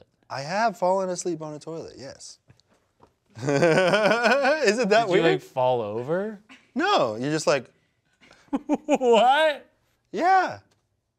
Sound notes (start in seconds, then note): 3.4 laughs